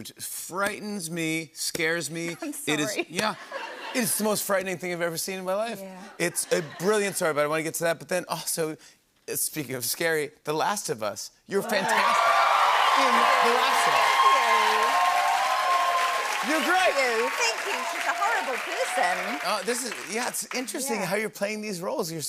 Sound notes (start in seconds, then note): 12.2 cheers and applause; 15.1 cheers and applause